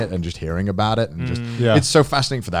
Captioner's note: affirmative murmuring